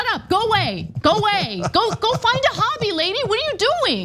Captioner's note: laugh